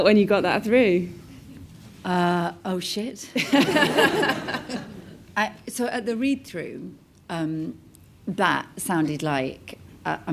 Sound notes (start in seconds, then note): 3.5 all laugh